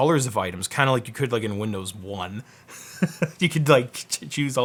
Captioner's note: laughs